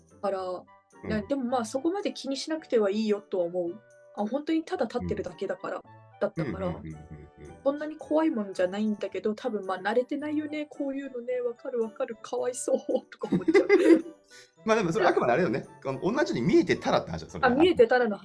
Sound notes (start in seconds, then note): 13.2 laugh